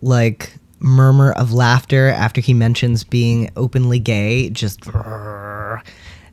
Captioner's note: angry sound